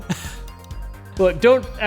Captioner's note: chuckle